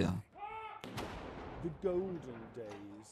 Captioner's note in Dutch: kanonnen bulderen